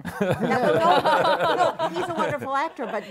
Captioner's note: laughter